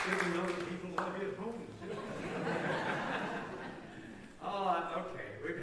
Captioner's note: laughter